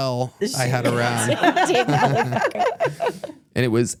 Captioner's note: everyone laughs